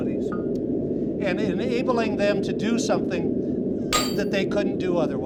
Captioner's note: metal banging